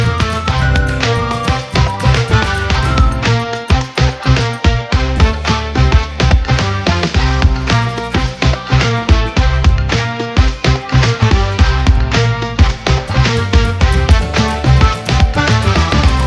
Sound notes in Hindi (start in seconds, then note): 3.9 तालियाँ; 16.0 तालियाँ